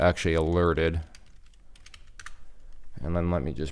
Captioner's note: keyboard clicking